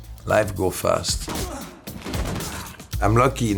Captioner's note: men grunting